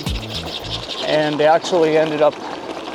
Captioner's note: turkeys gobbling